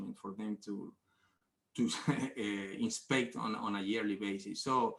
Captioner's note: laughs